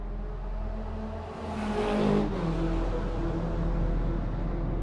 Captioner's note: car engine roaring